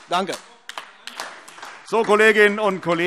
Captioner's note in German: Beifall AfD